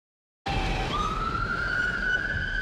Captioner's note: police siren